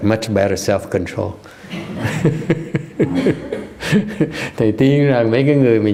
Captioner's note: laughter